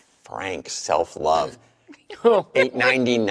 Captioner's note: chuckle